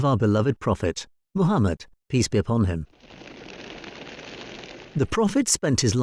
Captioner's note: wings fluttering